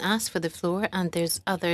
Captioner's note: speaking French